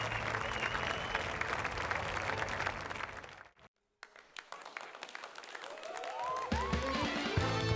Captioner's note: audience applauding; upbeat music